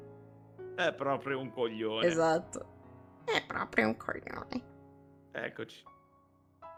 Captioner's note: cheap Kermit voice